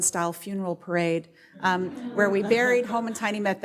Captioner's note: audience laughs